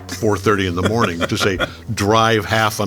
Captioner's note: laughing